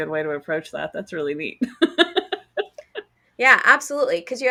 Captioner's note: laughs